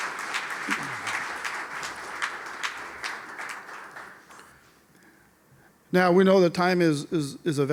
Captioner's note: applause